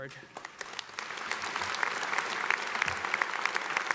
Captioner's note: audience applauds